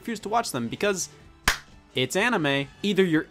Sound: clap

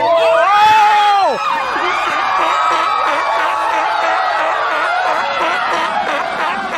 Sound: screams, panic, chaos, barking seal sounds

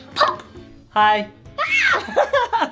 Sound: Adley squealing; dad laughing

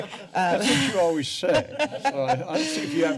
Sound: laughter

